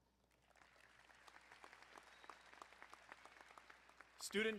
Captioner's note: crowd applauding